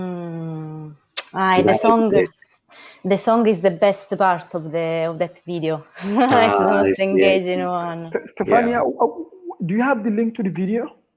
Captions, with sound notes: >> Hmm. [ Chatter ] >> The song is the best part of that video. >> Ah. [ Chatter ] >> Stefania, do you have the link to the video?